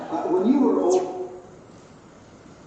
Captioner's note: tv turns off